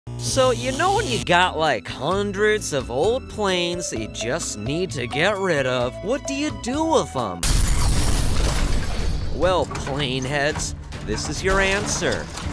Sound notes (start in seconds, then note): 7.4 loud crashes and bangs